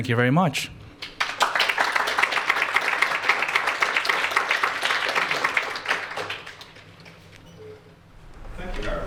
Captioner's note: applause